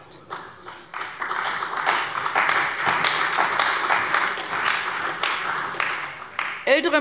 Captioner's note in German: Beifall bei der CDU und dem BÜNDNIS 90/DIE GRÜNEN